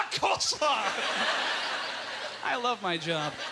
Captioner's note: audience laughter